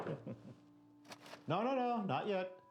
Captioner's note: chuckling